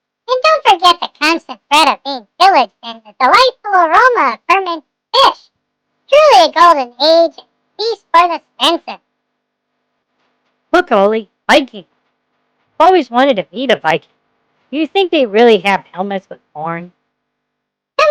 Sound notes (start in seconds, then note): 11.1 excitedly